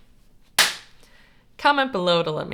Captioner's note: clap!